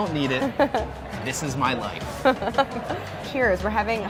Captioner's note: laughing